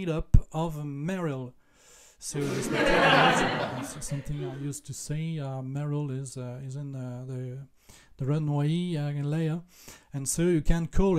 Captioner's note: laughs